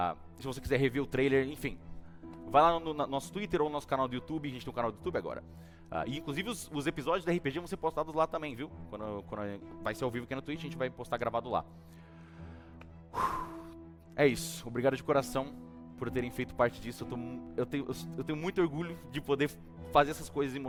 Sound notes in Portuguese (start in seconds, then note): 13.1 suspira